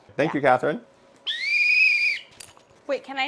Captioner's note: whistle